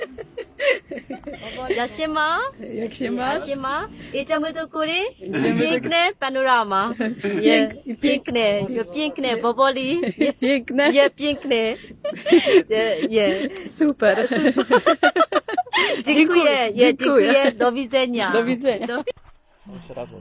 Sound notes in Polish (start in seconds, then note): 0.0 śmiech; 14.2 śmiech